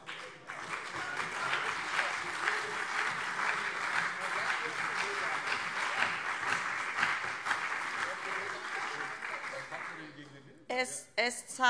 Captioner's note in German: Beifall CDU und SPD